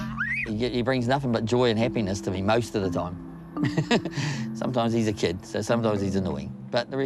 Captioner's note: laughs